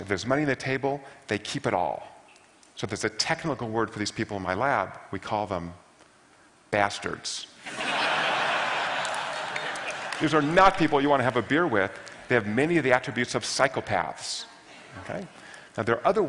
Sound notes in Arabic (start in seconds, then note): 7.7 ضحك